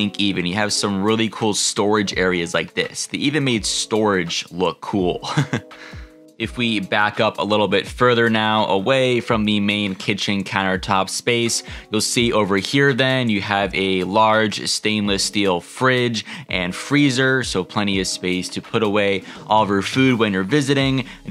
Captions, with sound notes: you has some really cool storage areas, like this. They even made storage look cool (laughs). If we back up a little bit further now away from the main kitchen countertop space, you'll see over here then, you have a large stainless steel fridge and freezer. So, plenty of space to put away all of your food when you're visiting.